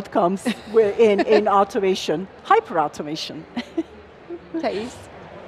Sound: chuckles

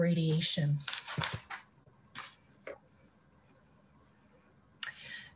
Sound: paper rustles

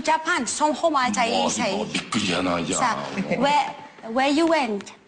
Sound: talk in fake Japanese

